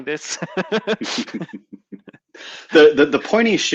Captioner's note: participants laugh